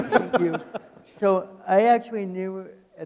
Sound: people laughing

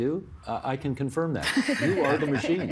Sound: laughter

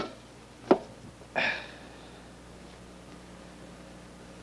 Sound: sighing

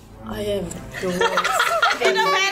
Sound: laughs uncontrollably

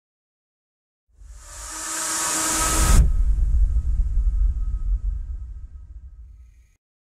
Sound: sound of tension

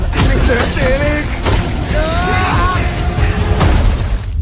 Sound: yelling

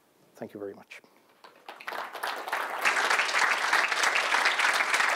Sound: applause

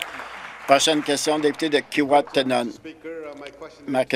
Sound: applause

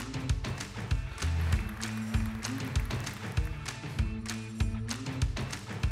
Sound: audience applauding; upbeat music continues

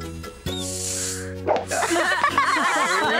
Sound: laughing

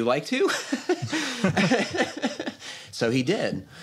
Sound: laughter

